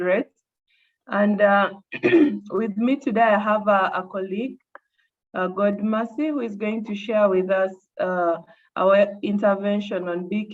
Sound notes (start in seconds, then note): 1.9 coughs